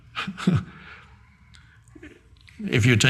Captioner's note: Eckhart chuckling